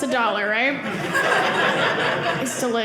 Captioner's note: audience laughing